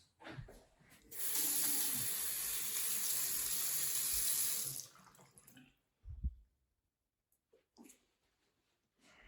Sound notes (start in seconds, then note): 1.0 water running